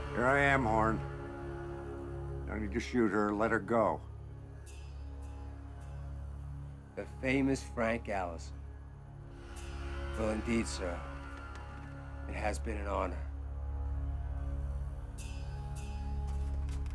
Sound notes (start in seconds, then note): none